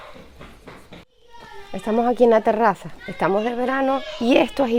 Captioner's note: children's voices